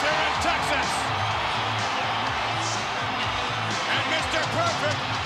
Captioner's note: crowd cheering continues; energetic music continues